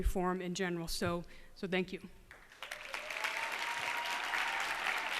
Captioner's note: cheers and applause